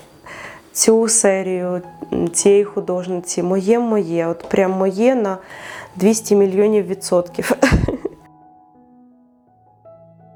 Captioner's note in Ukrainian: сміх